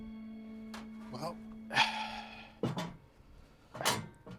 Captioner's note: sighs